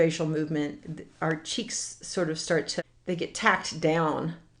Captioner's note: none